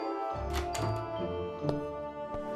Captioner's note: door opening sound